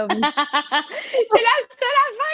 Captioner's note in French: rires